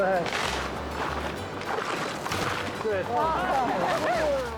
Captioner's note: tree creaks